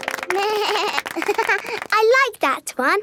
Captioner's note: laughing; snorts; bleats and laughs